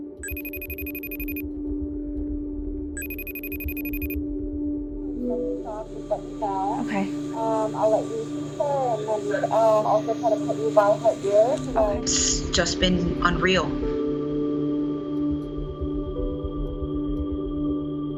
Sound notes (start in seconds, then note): 0.2 phone ringing; 5.6 phone connects, nurse speaking